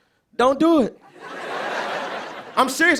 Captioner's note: laughter